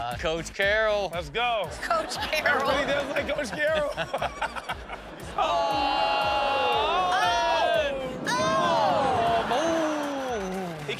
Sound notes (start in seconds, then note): 0.0 upbeat music; 2.6 laughs; 4.9 laughs; 9.0 audience laughing